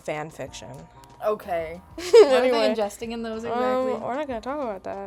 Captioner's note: laughing